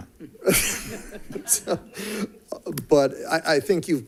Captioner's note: audience laughing